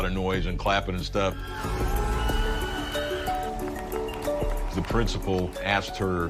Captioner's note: cheers and applause